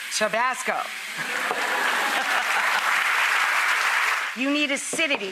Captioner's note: audience applause